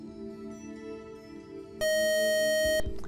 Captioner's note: buzzer